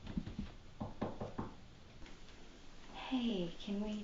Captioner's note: knocking